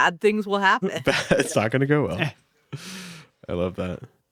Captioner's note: laughs